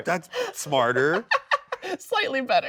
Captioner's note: laughing